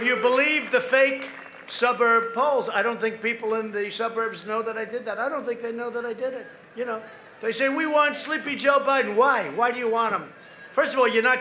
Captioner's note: applause